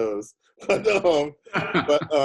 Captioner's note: chuckles; laughing